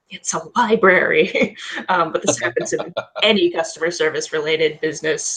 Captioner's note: laughs